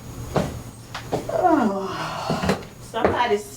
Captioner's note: yawns loudly